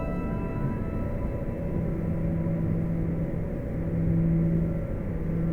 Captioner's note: satellite whirs